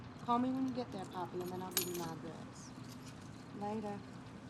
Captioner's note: keys rattling